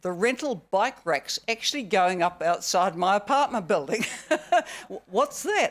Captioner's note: laughs